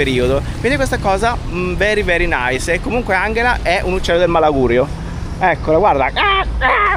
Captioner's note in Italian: urlo